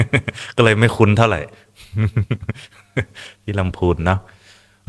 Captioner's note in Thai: เสียงหัวเราะ